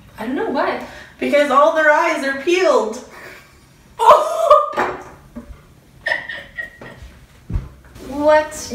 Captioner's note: laughs